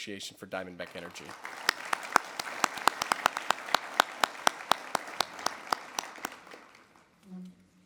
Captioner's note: audience Clap